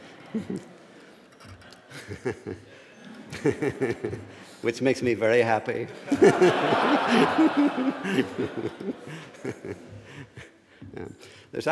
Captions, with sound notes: Which makes me very happy. (laughter)